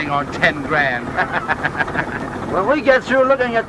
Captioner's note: laughs